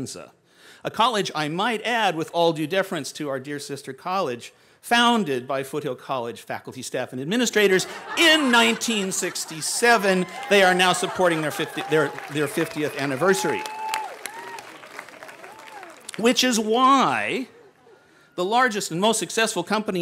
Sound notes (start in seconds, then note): 7.7 laughter; 14.8 cheering